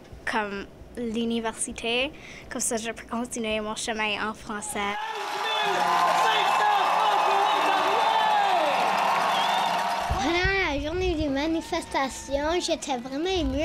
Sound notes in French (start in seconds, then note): 4.9 cris et applaudissements